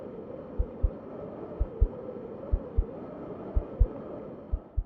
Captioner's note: wind